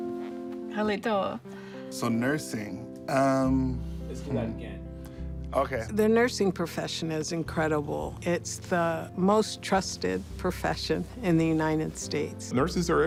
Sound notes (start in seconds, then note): 2.4 speaking in foreign language